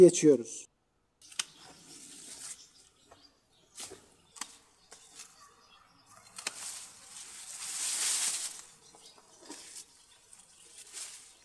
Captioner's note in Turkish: makasın kesme sesi ve yaprakların çıkarğı hışırtı sesi, kuş sesleri